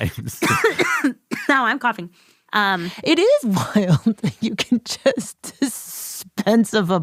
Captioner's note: laughs